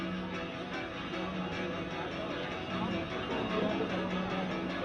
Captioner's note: people chattering